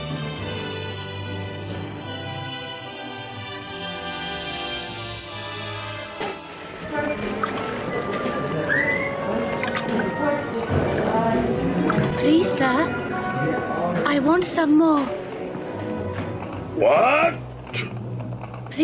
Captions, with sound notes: (chairs squeaking) (soup bubbling) (orphan whistles) (orphans chattering) - Please, sir. I want some more. - What?